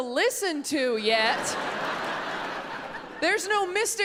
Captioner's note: audience laughs